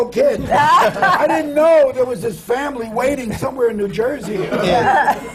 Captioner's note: laughter